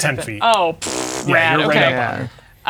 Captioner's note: blows raspberry; laughing